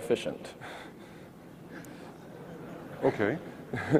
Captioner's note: audience laughs